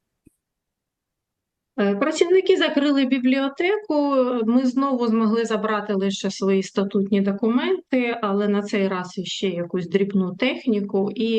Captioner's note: foreign language